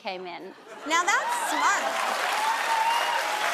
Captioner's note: audience laughing; audience applauding